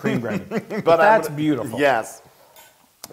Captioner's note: laugh